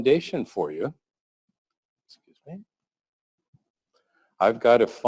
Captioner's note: pause